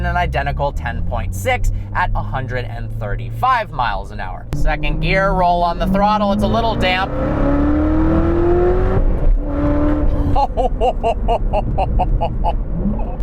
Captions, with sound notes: In an identical 10.6 at 135 mph Second gear roll on the throttle, it's a little damp out [The elegant sound of a 755hp LT5 all american beauty of a Chevy V8] HOHOHOHOHOHOHOHOHOHOHOHOHOHOHOHOHO